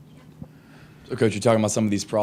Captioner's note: lady speaks faintly